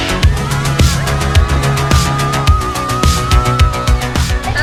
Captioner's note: screaming